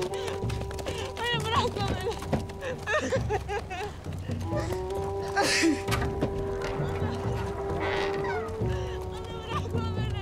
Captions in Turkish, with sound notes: Hayır bırakma beni! [Ağlama Sesleri] [Kapı Gıcırtısı Sesi] Ana bırakma beni!